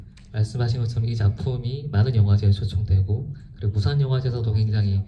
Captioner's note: speaks in foreign language